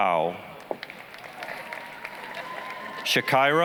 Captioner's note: applause